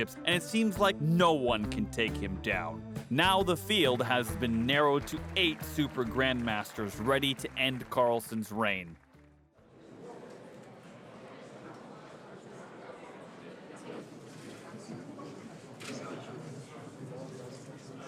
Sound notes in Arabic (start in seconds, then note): 9.7 ثرثرة الجمهور